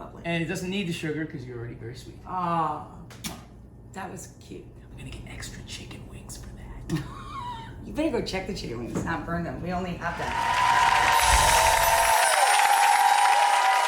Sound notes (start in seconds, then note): 7.1 laughs; 10.1 audience applauding